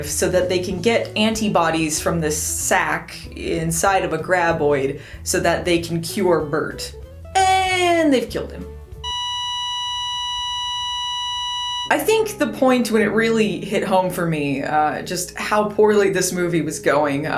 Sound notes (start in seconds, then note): 9.0 flatline